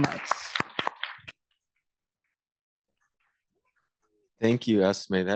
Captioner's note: applause